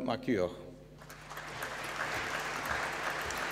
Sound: applause

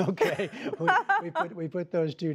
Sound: laughter

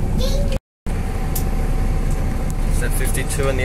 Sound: bus Noises and General Chatting

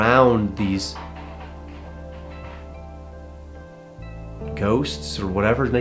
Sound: thudding on wood floor

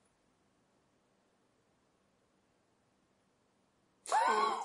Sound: laughs

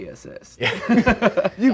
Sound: laughing

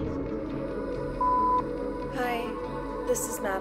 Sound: electronic beeping

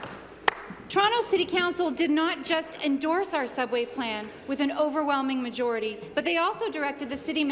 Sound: applause

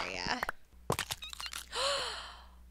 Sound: egg cracks; baby turtle squeaks; gasp

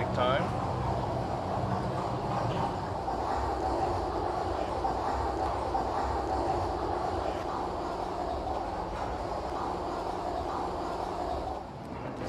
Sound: machinery noises

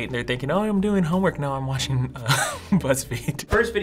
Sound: chuckles

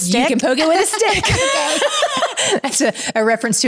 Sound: laughs

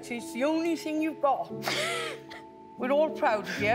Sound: laughing

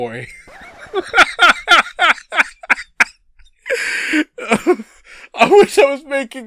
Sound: corpsing

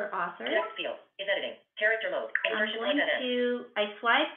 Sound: VoiceOver voice

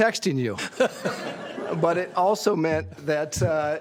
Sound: laughter

